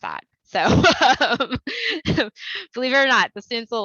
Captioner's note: laughter